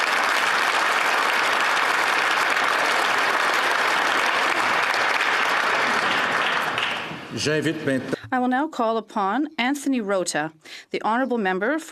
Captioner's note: applause